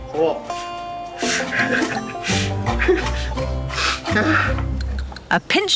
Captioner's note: sniffing; laughing